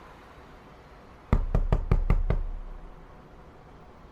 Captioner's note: even more door knocking